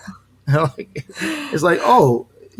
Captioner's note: chuckling